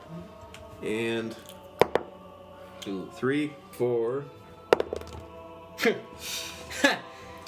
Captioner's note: dice roll